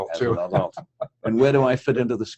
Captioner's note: laugh